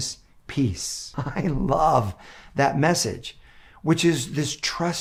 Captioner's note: chuckling